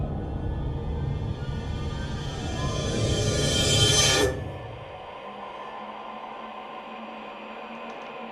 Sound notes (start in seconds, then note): 0.0 eerie, ominous sounds